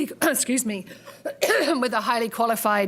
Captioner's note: clearing throat